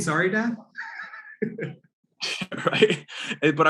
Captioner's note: laughs